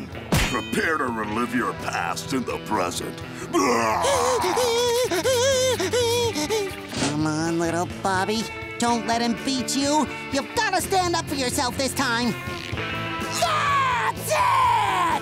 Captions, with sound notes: Prepare to relive your past in the present. [laughing] Come on, little Bobby, don't let him beat you. You've got to stand up for yourself this time. That's it!